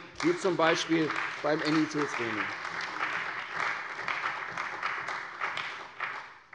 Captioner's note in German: Beifall bei der CDU und dem BÜNDNIS 90/DIE GRÜNEN